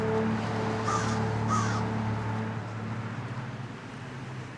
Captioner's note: crow cawing